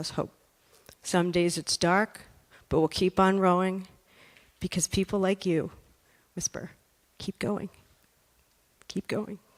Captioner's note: whisper